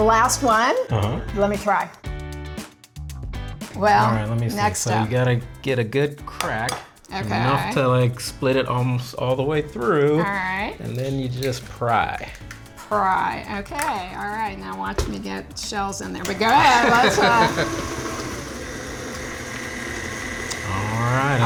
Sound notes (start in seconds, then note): 0.0 upbeat music continues; 7.2 egg cracks; 19.4 laughing